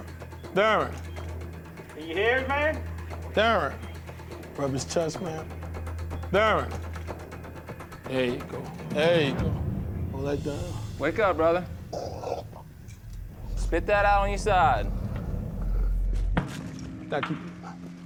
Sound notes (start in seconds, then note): 11.8 coughs